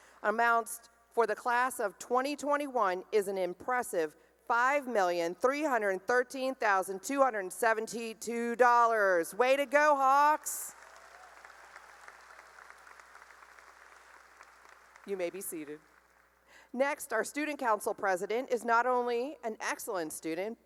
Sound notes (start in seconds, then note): 10.7 cheering and applause